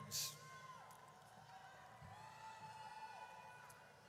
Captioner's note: audience cheers